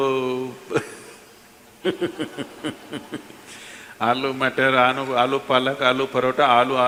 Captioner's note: laughter